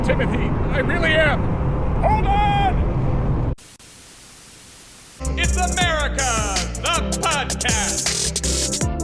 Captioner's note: static